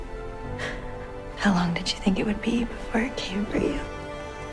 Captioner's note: voiceover